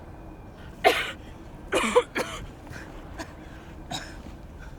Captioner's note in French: Tousse